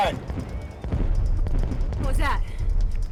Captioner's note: explosion booming